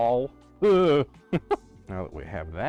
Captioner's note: wheeze; chuckle